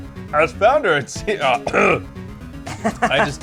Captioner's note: clears throat; laughs